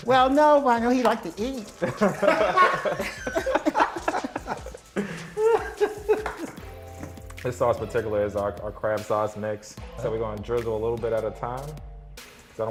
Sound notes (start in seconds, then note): 1.8 laughter